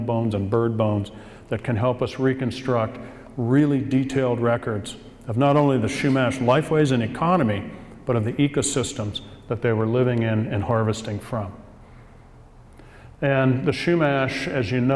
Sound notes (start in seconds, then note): 11.6 pause